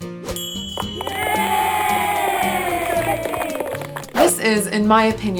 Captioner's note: claps and cheering